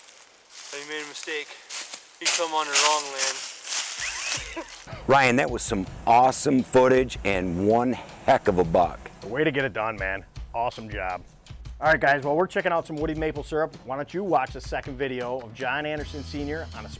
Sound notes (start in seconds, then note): 3.9 laughing